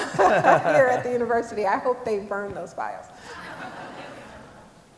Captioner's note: laughter